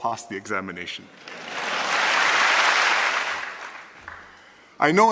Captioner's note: applause